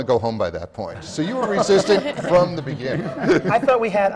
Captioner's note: laughter